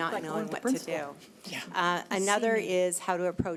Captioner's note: overlapping chattering